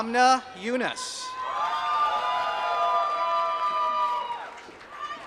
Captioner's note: applause